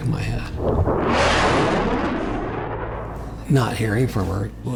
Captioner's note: jet engine roaring